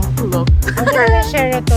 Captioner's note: laugh